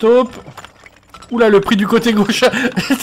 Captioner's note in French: rires